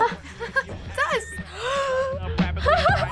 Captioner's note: chuckles; gasps; laughs